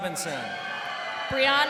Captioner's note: crowd cheering